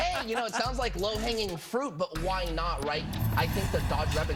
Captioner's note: laughter